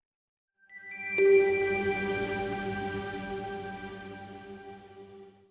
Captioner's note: chimes